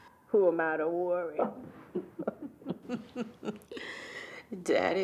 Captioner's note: both chuckling